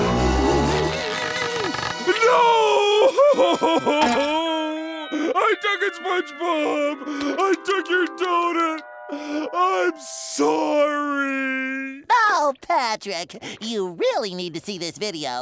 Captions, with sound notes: No-o-o-o! [crying] I took it, SpongeBob. I took your doughnut. I'm sorry. Oh, Patrick. You really need to see this video.